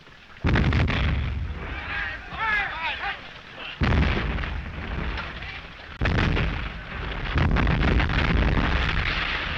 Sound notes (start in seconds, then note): 0.4 explosions; 1.6 all shouting